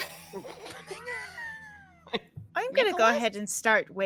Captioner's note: all laughing